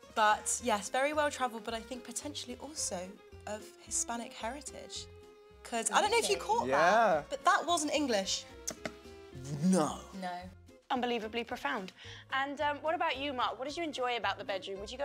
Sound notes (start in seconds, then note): 8.6 pops tongue